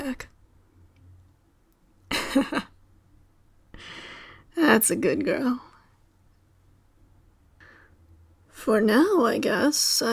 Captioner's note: laugh